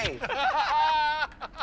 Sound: laughter

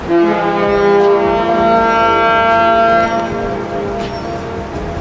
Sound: cruise ship horns blaring; seagulls calling; upbeat music

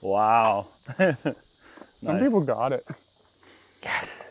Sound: chuckles

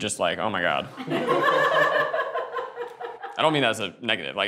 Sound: group laughs

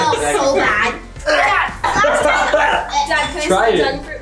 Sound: gagging

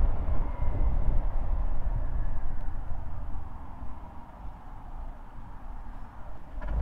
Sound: sirens

